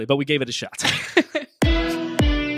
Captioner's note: both laughing; upbeat energetic music